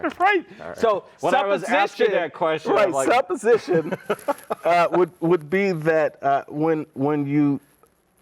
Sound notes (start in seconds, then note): 3.7 both chuckling